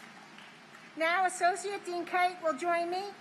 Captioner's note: applause